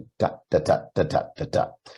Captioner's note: imitating beats